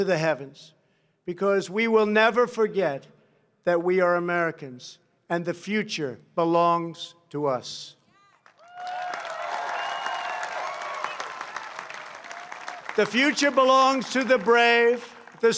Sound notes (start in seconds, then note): 8.2 applause